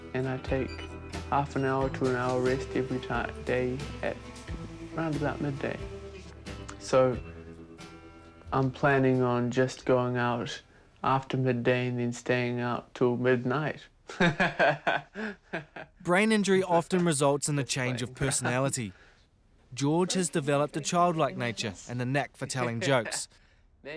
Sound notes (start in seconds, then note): 14.2 laughs